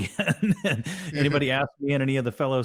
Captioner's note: chuckles